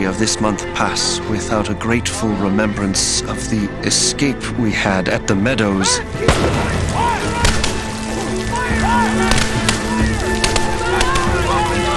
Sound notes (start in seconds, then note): 5.9 soldiers shouting; 8.1 gunshots booming